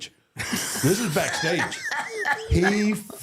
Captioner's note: John and Michelle laugh